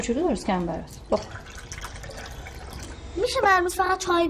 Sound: milk pouring

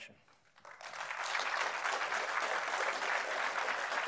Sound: applause

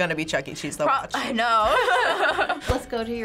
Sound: both laugh

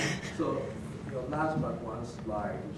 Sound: audience laughs

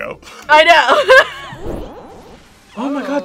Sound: laughs

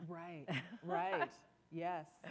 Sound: laughter

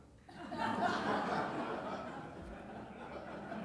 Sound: laughing

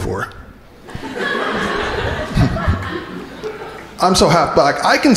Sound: crowd laughing

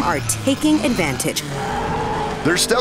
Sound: roaring tires

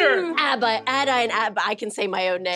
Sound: stammering

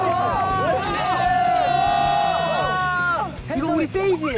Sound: air horn sound

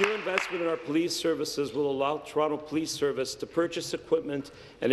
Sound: applause

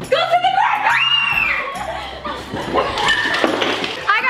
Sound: screaming

